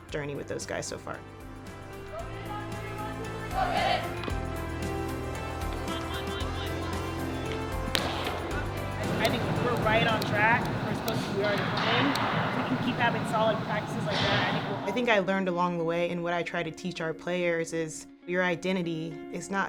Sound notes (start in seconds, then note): 3.0 women chanting; 4.6 inspiring music